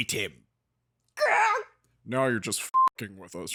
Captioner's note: makes sound like she's been goosed